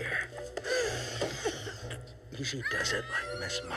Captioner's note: screeching